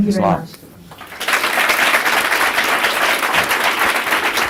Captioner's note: applause